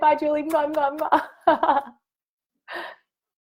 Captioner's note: kisses and laughter